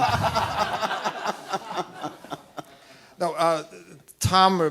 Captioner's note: laughing